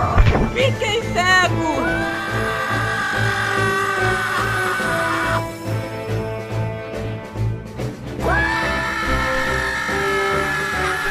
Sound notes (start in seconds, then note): 0.0 wind blowing sounds; 1.8 screams